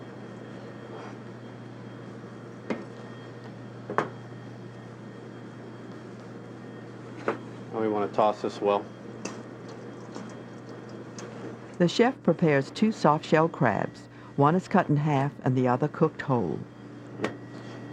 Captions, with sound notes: And we wanna toss this well. - [Voiceover] The chef prepares two soft shell crabs. One is cut in half and the other cooked whole.